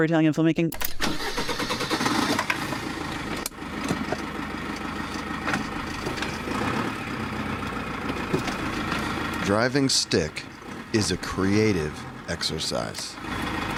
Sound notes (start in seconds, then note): 1.4 vehicle starting; 4.9 engine revving; 13.5 engine revving